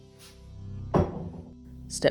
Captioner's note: bowl Clatter